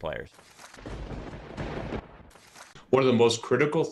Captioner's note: lightning strike